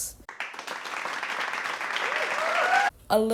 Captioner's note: applause